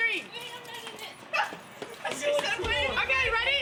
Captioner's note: girl yells